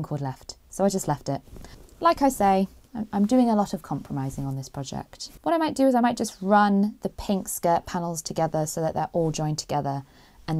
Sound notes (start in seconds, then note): none